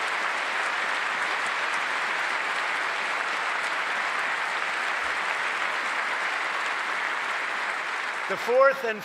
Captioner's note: applause